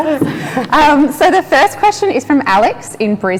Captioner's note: laughs